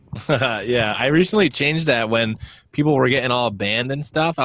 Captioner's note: chuckles